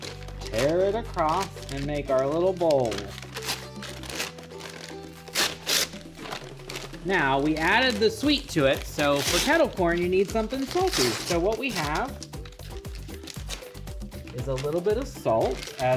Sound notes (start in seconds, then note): 4.3 paper tearing